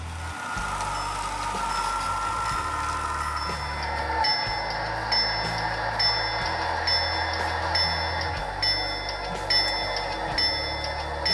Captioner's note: locomotive bell